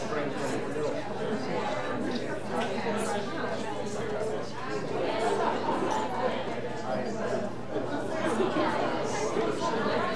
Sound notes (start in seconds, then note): 3.9 audience chattering